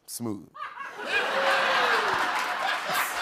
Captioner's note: laughter; applause